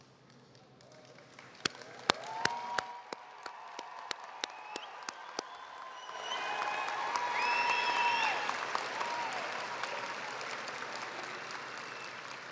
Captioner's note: applause